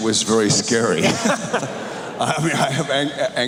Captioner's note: cheers